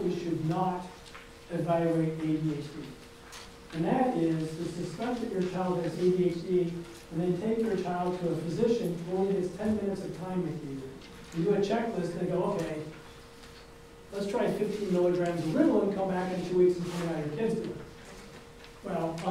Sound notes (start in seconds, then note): none